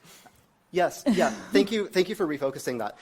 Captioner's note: laughs